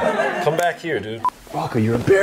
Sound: laughs

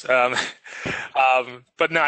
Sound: chuckles

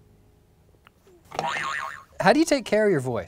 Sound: boing

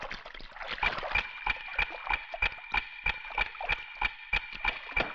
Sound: clock Ticking

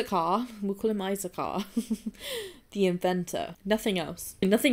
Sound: giggles

